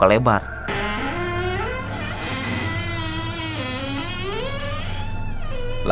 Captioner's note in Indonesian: suara pintu terbuka